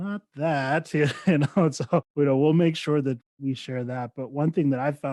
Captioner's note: chuckles